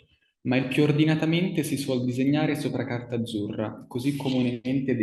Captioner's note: speaks in foreign language